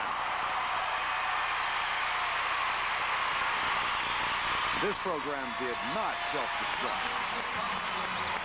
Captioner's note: cheers and applause